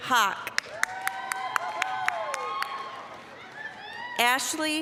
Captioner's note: applause, cheering